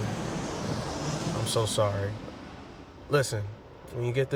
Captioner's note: airplane whooshing